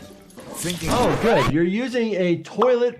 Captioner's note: record scratching